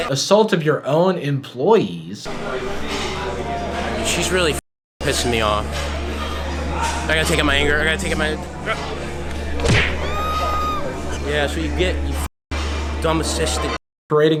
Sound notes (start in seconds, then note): 9.6 punching sound; 9.9 scream